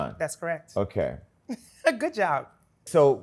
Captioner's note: laughs